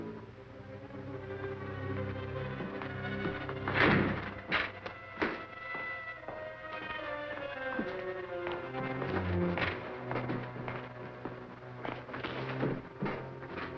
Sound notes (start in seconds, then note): 5.7 footsteps approaching